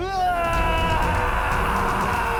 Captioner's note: yelling